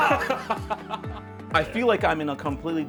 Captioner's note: laughing